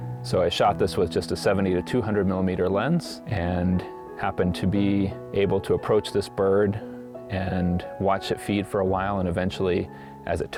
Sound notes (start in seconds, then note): none